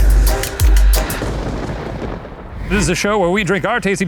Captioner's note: thunder rumbles